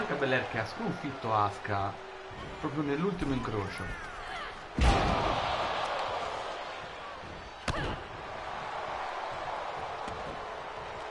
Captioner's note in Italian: Applauso